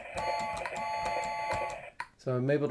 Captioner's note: horn blowing